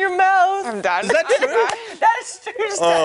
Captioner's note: laughter